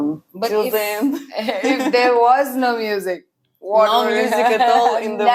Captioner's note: laughs